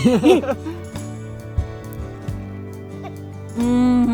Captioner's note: laughs